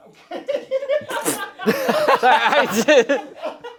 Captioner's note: everyone laughs